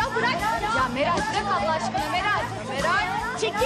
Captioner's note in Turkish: Bağırışlar